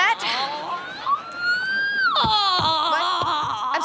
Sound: moaning

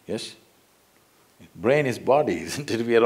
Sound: laughs

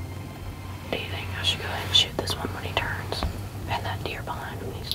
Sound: whispering

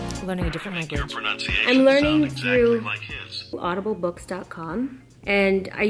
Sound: phone speaking

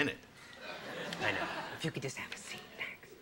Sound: audience laughs

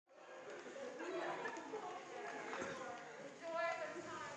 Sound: students chattering

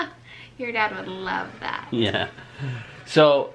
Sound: laughs

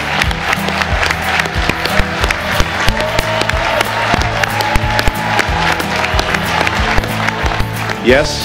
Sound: cheers and applause

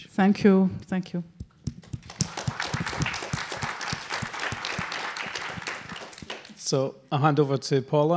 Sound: applause

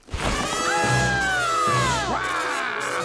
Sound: screaming

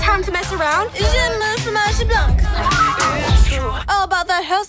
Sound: speaking French

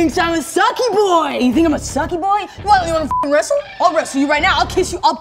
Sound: beep

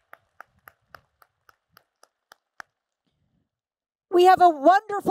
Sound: applause

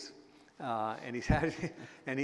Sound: chuckle

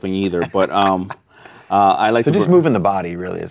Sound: laughing

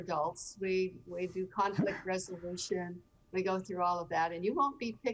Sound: everyone chuckling

